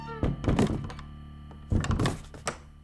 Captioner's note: old door jamming